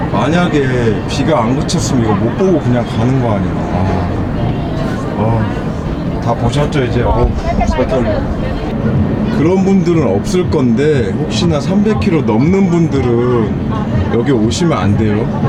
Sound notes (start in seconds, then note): 7.4 laughing